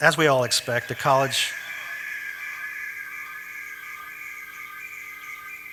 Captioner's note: garbled squelching